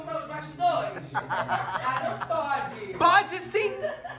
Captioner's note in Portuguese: riem